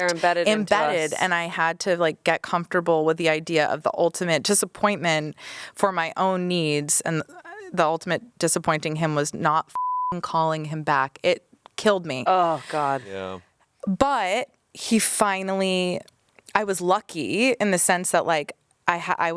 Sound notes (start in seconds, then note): 9.7 beep